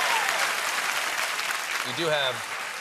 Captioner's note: applause